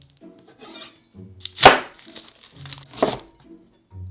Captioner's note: knife cutting